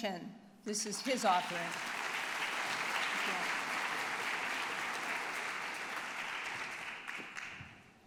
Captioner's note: applause